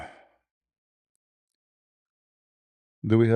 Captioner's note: berdehem